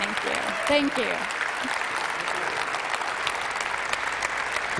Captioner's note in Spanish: Aplausos